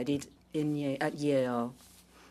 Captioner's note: speaking in French